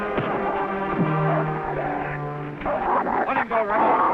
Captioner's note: fist thuds; Rebel growling